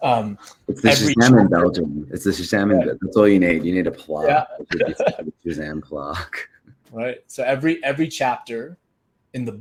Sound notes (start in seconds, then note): 2.3 laughs; 6.5 chuckles